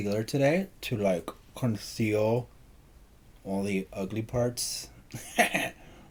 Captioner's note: giggles